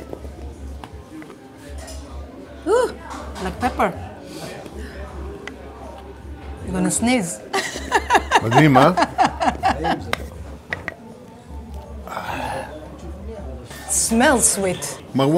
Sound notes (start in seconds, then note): 7.5 laughs